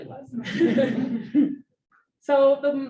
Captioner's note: audience laughs